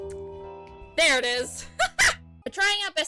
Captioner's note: laughs